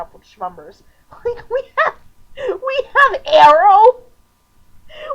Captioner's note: laughing